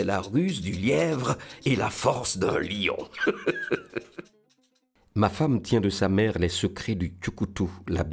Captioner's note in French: rires